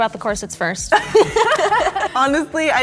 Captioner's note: all laughing